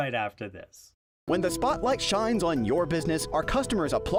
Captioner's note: voiceover